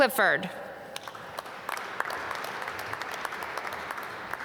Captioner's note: applause